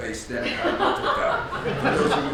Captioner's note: audience laughs